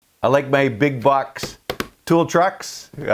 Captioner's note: hands tap